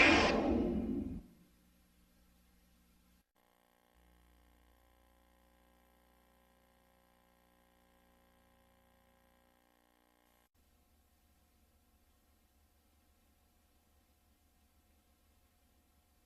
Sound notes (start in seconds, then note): 3.6 VHS static